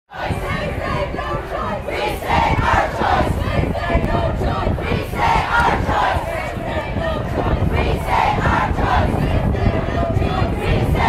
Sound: chanting

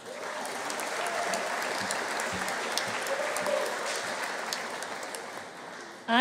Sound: audience cheering; audience applauding

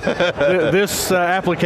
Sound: laughs

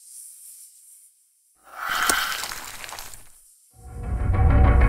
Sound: spell sound; dramatic music

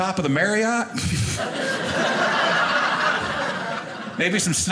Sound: audience laughing

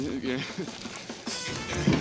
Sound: knock On Door

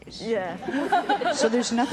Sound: laughs

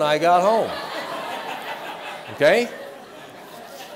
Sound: laughter

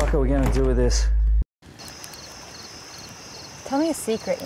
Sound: crackling fire and cicadas chittering

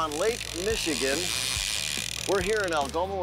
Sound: fishing line zinging

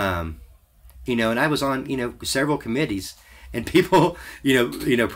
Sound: laughs

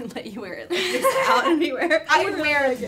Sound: laughter

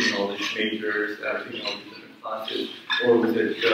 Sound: speaks away from mic

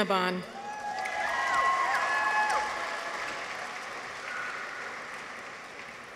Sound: people cheer; audience applauds

